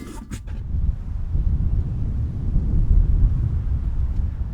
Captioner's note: wind rustling